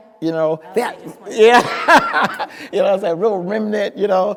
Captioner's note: speaker laughing